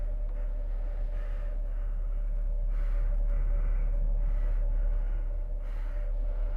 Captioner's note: Skull-Faced Assailant panting